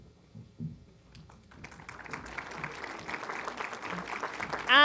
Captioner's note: applause